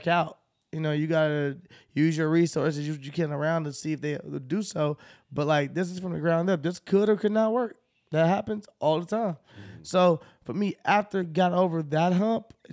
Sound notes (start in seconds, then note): none